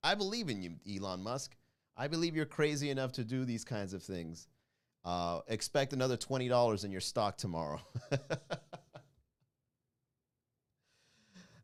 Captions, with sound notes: I believe in you, Elon Musk. I believe you're crazy enough to do these kinds of things. Expect another $20 in your stock tomorrow. (laugh)